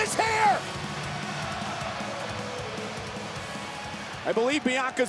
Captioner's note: audience cheering